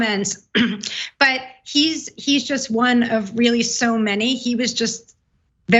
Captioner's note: cough